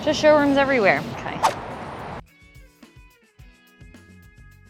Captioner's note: air whooshing